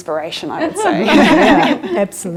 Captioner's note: giggling lightly